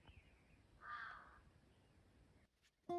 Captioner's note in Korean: 까악